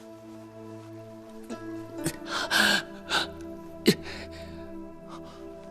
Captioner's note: Chu Yuan gasping